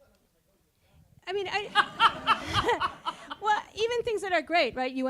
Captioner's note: laughing